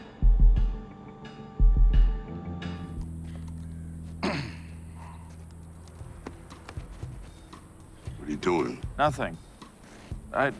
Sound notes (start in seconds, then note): 4.2 throat clears